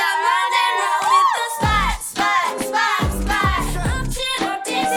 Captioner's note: the unnies scream out loud~!